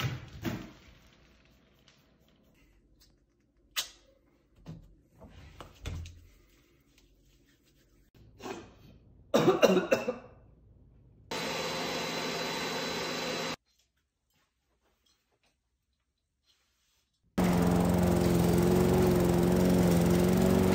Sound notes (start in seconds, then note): 9.3 coughing; 11.3 leaf blower sounds; 17.4 lawn mower sounds